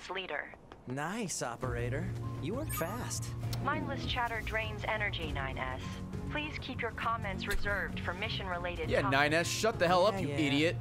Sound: laughs

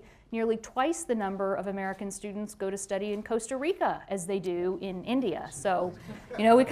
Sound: laughter

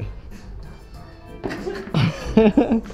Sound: laughs

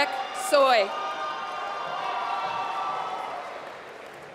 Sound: applause

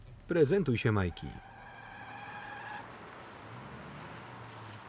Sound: car screeching

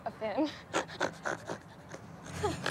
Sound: snorting

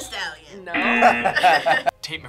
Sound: buzzer sounds; laughs

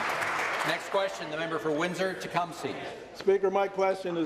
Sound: applause

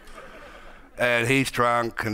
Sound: audience laughing

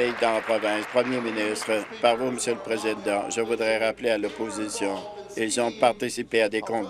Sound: applause

